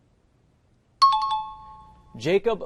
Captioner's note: chiming